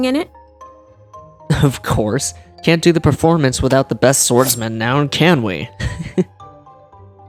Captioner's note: chuckle